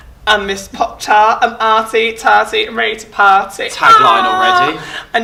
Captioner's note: moans